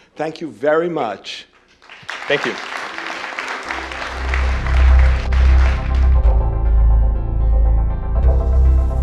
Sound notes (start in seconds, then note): 4.1 applause